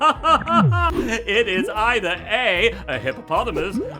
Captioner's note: laughing